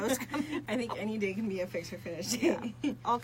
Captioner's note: laughs